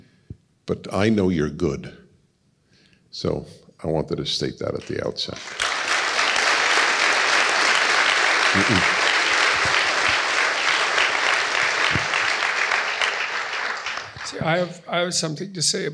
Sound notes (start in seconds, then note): 4.8 applause